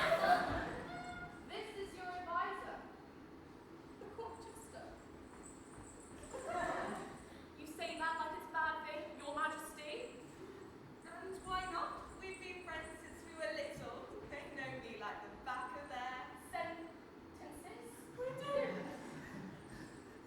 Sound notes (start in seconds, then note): 0.0 audience laughs; 5.2 jingle jingle